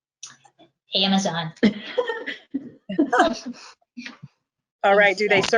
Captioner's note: group laughing